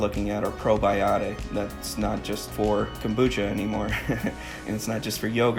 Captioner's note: laughs